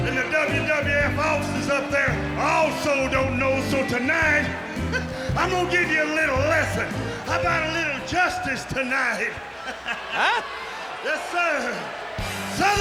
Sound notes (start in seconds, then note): 9.2 laughs